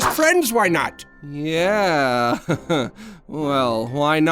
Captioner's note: awkwardly laughing